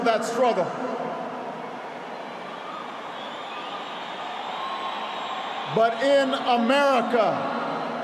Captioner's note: applause